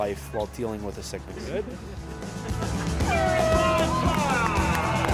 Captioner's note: horn blowing; crowd loudly cheering